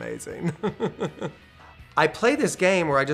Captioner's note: laughter